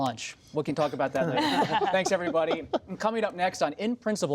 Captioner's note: laughter